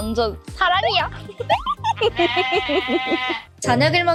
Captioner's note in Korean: 웃음소리